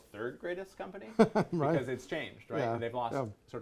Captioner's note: laughs